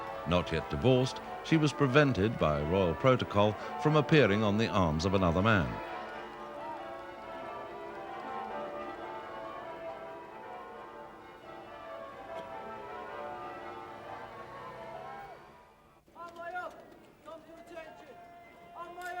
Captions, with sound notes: Not yet divorced, she was prevented by royal protocol from appearing on the arms of another man. (church bells ringing) (soldier shouting)